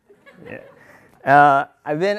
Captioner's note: laughter